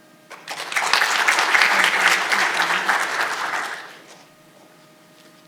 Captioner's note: audience applauding